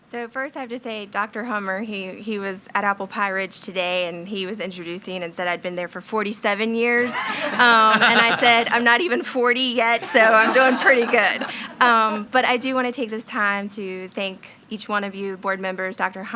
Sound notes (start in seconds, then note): 7.0 attendees laughing